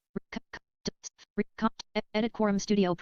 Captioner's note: software audio skipping